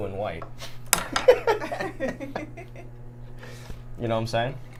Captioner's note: everyone laughs